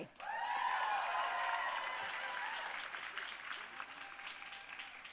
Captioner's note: audience cheering and applauding